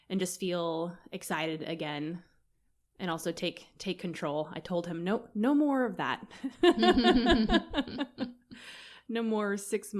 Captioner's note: laughter